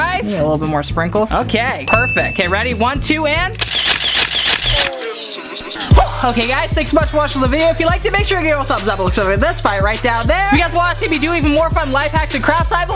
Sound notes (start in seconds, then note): 3.5 camera snapping pictures